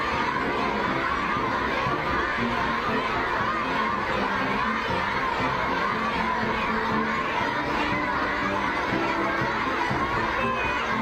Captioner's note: cheering